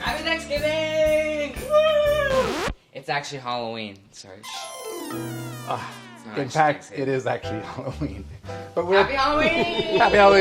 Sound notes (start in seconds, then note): 1.6 cheering; 4.5 dramatic music; 5.6 sighing